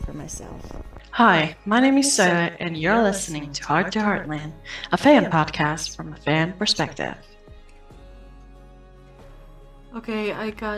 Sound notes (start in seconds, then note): 0.8 voice echoing